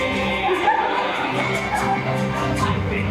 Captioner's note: audience laughs